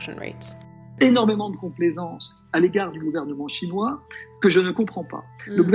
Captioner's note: man speaking a foreign language